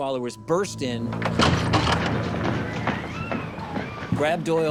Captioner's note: door creaks